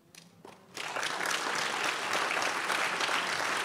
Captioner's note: crowd applauds